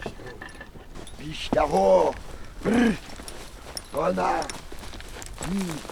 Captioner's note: man speaking Polish